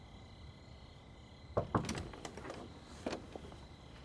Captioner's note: door knock